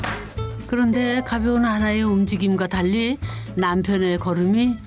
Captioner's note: slow steps…